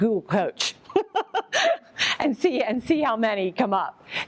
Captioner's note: laughs